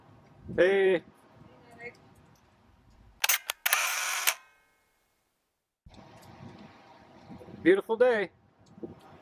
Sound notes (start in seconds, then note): 3.2 camera shutter clicks